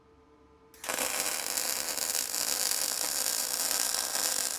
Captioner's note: metal sizzling